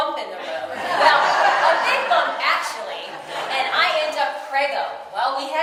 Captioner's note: audience: laughter